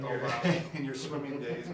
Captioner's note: laughing